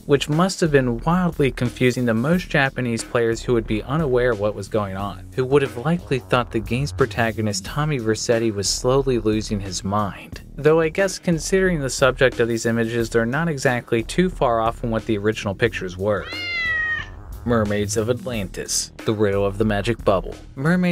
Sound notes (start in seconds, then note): 16.2 meow